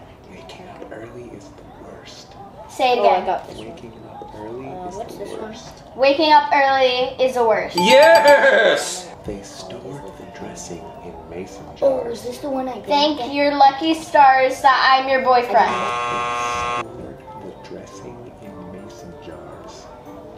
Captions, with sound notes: - Waking up early is the worst. - Say it again. - Waking up early is the worst. - Waking up early is the worst. (bell dinging) - Yes! - They stored the dressing in mason jars. - Thank your lucky stars that I'm your boyfriend? (buzzer buzzing) - They stored the dressing in mason jars.